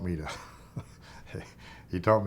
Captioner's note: chuckling